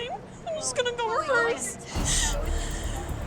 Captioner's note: crying